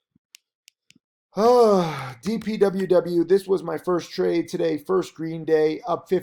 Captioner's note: yawns